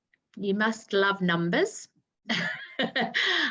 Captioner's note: chuckling